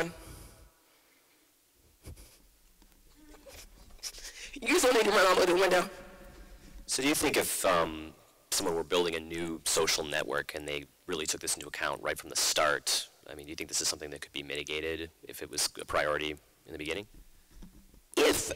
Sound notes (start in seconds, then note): 7.5 voiceover